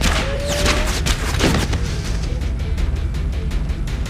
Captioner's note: bodies thudding